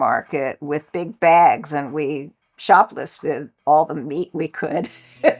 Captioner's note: laughs